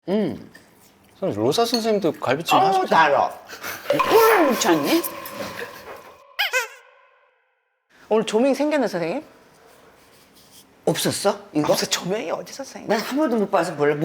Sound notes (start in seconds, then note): 6.2 Nattering with Nah